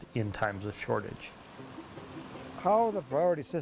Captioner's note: water flowing